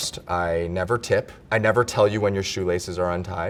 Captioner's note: none